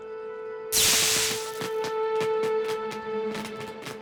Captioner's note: sparking